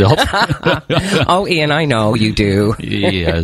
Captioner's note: laughing